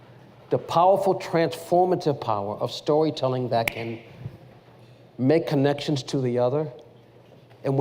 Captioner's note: none